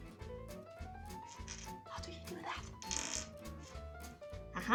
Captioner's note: Fycora whispers